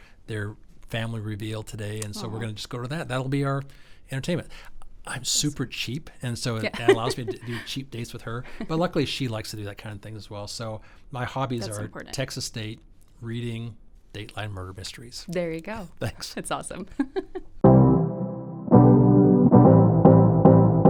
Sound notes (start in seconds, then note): 16.8 chuckling; 17.6 gentle music